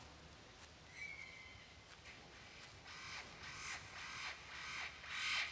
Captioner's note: birds calling